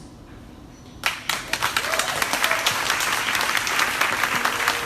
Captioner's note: crowd applauding